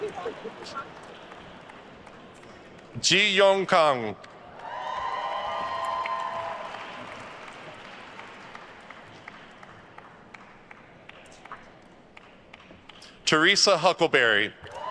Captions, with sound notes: (attendees laughing) Ji Yeon Kang. (attendees cheering and applauding) Theresa Huckleberry.